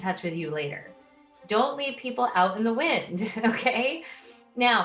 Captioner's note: chuckles